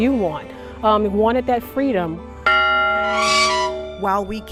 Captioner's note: bell ringing; creak